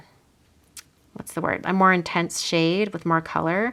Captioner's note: tongue clicks